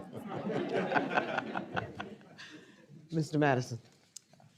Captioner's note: audience laughing